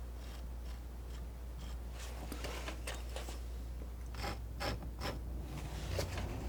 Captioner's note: scratching